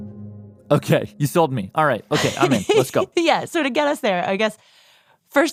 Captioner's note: laughs